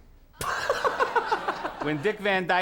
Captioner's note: Conan laughs